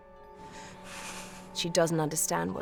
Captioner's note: breathes shakily